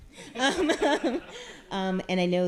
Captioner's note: audience laughing